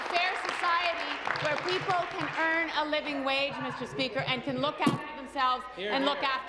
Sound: applause

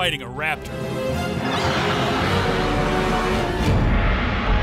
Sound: dinosaur roaring

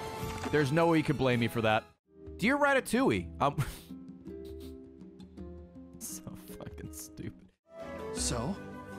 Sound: laughs

